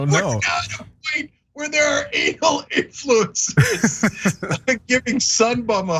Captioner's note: laugh